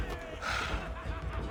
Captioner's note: sigh